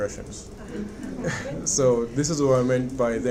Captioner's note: audience laughs